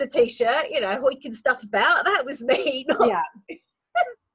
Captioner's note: laughs